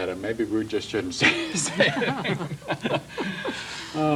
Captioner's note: laughs